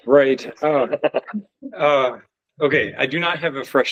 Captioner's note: laughs